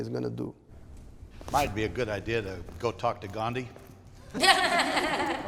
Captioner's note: laughter